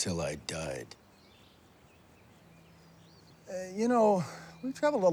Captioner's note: birds chirping